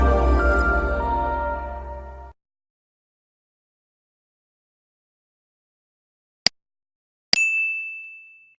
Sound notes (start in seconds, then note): 6.6 loud click